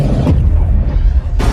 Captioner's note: asteroid slams